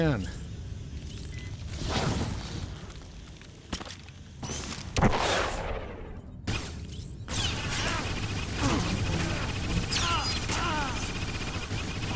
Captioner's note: gunshots